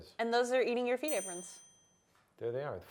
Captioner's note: bell dings